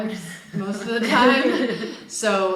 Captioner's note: group laughing